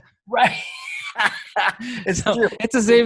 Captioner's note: laughing